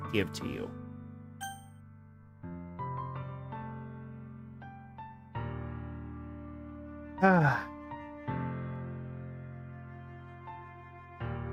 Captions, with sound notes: going to give to you. (sighs)